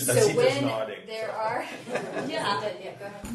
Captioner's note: all laughing